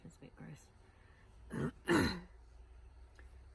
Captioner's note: clears throat